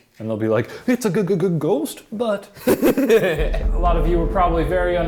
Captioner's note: laughing